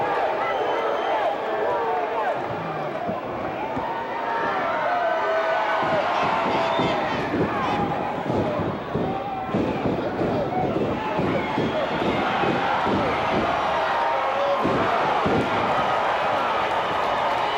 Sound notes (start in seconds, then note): 12.0 cheers